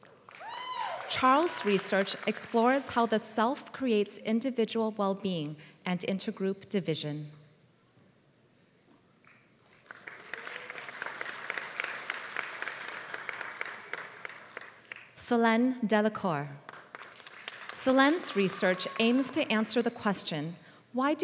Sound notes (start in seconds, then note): 0.0 applause; 9.6 applause; 16.6 applause